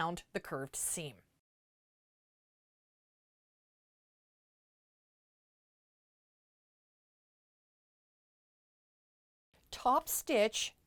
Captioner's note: no Sound Present